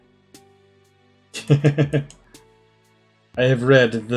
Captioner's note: laughs